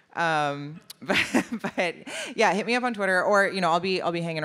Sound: laughs

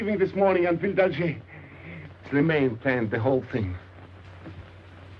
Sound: speaking foreign language

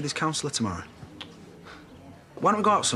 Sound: tsks

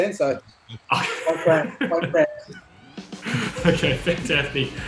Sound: laughter

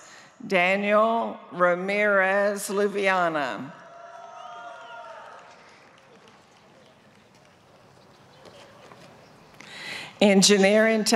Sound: applause

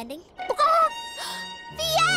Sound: gasping

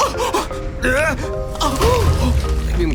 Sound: Marco yelping; groaning

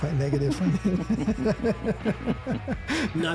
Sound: laughing

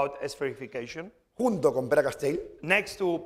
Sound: speaking spanish

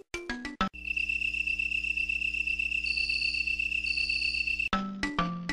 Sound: crickets chirping

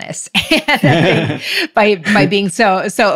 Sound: laughs

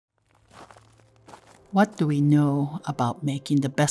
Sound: footsteps

